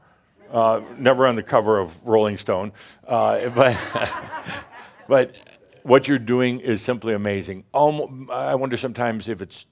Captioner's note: laughter